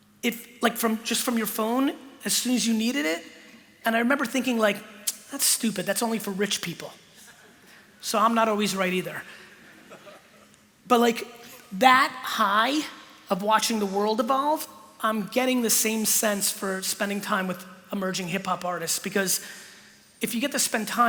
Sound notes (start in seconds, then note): 9.7 laughter